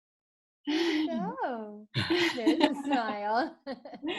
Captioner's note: laughs